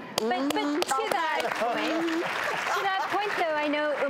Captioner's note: applause